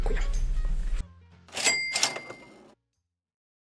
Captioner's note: cash register clatter